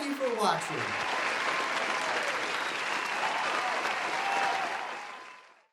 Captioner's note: clapping and cheering